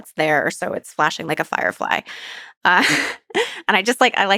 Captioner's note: laughs